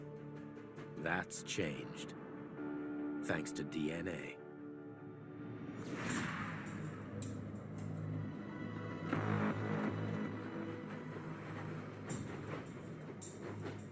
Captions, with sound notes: That's changed. Thanks to DNA. (engine roaring)